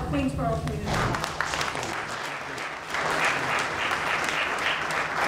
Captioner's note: audience applauding